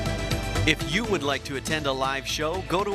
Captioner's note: upbeat music; voiceover